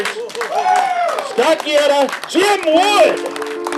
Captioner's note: clapping and cheering